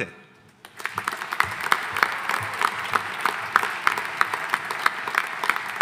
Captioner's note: audience applauding